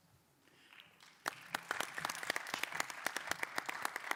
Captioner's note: applause